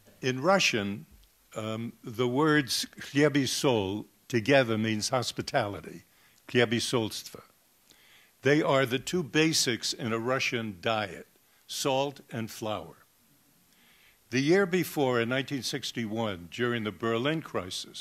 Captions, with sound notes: In Russian, the words [foreign language] together means hospitality [foreign language]. They are the two basics in a Russian diet, salt and flour. The year before in 1961 during the Berlin Crisis,